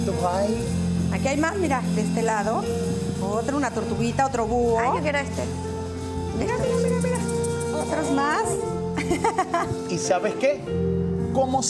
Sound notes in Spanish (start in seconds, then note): 8.9 Ríe